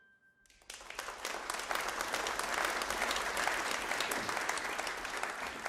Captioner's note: audience applauding